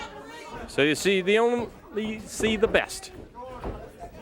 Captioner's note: crowd chatter